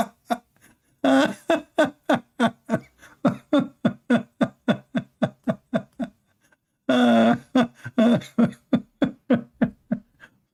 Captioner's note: Ketawa